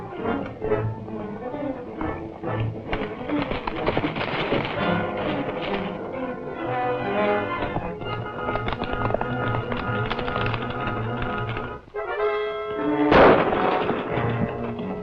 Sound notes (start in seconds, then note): 13.1 gunshot